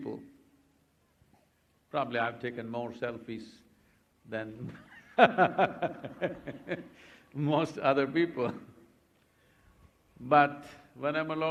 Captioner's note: laughs